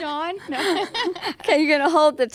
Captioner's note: laughing